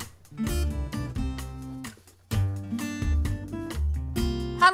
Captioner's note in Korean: 부시럭 부시럭